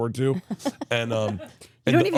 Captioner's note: laughs